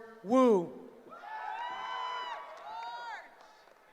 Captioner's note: cheering